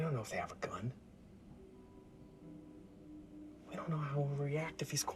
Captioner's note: crickets chirping